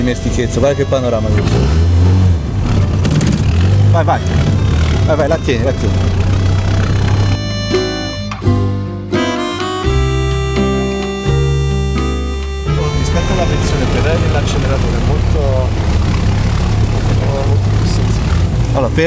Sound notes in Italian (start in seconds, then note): 6.5 Motore bassissimo di giri